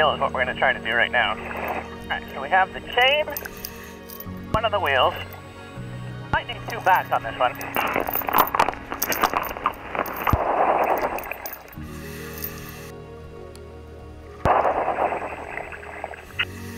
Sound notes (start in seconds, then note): 8.2 chains rattle; 9.6 water gurgles; 13.9 gentle music